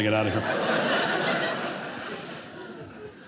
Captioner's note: audience laughing